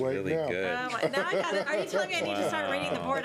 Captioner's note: laughter